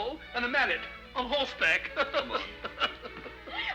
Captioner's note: laughs